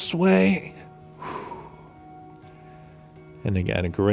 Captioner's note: exhaling